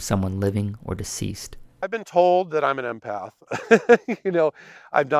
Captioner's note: laughs